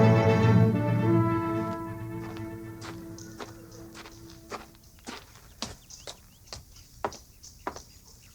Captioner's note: footsteps